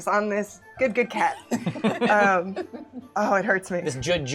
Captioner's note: laughter